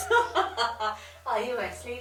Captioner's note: laughs